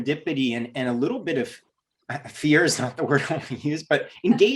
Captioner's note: giggles